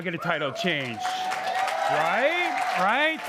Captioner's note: crowd cheering